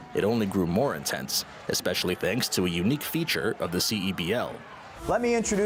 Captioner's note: cheers and Applause